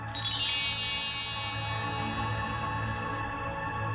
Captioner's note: gentle chimes